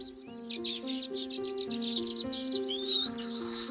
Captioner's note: birds twittering